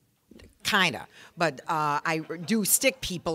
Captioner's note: audience laughing